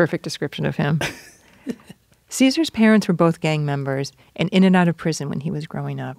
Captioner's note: laughs